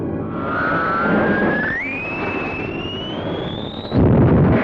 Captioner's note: squealing